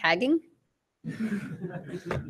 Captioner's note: laughter